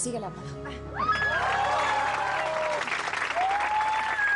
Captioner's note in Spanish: Aplausos